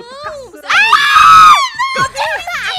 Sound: laughter; screams

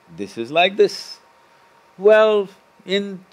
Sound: none

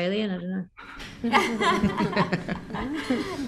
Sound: laughs

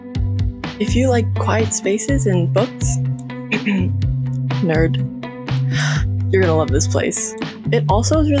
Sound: ahem

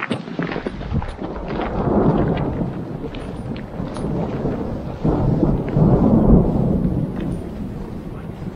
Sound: thunder

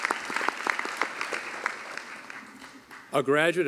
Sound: cheering and applause

